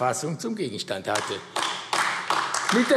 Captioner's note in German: Beifall AfD